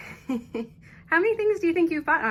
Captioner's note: laughs